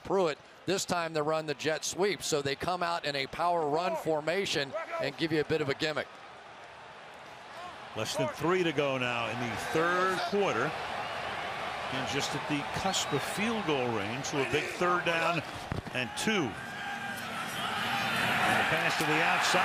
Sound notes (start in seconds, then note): 4.5 cheering